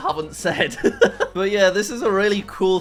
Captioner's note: laughing